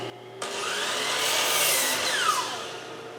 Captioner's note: saw cutting